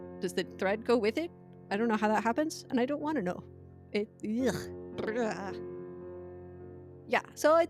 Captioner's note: blegh sounds